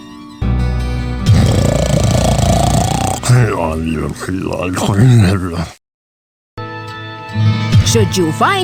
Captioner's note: 打噴嚏，喃喃自語; snoring, mumbling